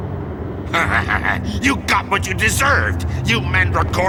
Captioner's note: snidey laugh